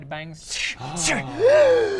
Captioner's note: gasp!